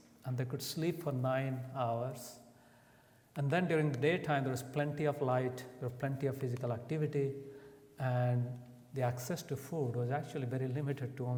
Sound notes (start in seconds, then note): none